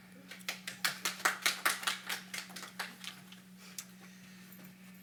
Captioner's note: audience applauding